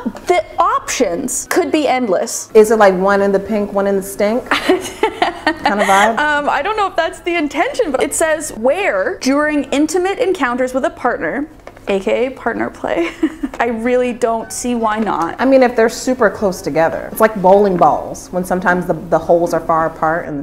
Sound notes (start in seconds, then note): 4.5 laughing; 13.0 laughing